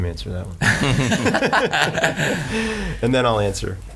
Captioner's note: laughing